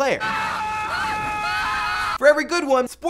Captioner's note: yelling